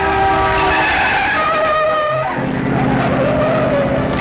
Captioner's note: tires screeching